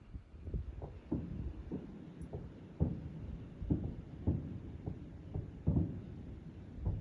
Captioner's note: there's fireworks going off in the distance